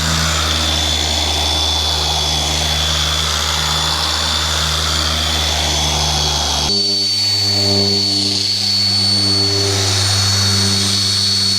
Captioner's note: polisher Noise